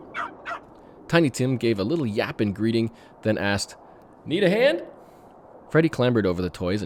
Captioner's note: bark